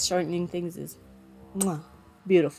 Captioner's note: mwah